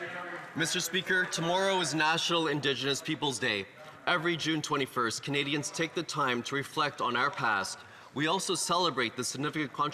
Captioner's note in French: voix de l'interprète